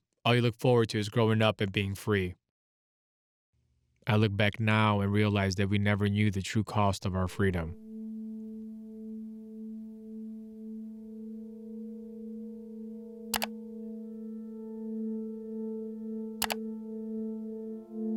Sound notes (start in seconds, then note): 8.4 captivating music; 13.5 computer keys click